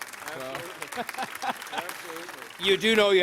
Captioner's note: applause